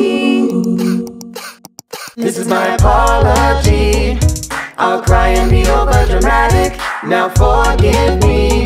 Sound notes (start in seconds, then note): 0.5 subtle clicking; 0.6 crying